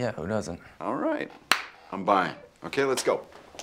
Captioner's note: Jeff claps